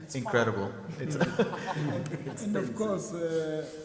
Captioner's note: people laugh